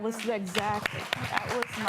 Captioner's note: applause